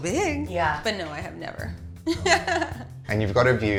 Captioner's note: laughs